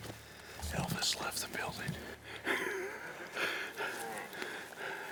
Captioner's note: laughing